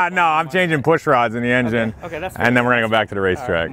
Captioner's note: laughs